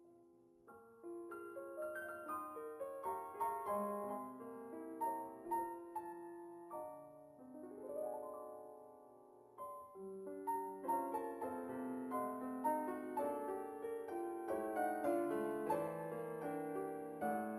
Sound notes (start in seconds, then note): none